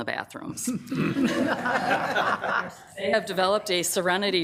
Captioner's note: members laughs